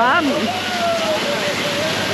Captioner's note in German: Jubeln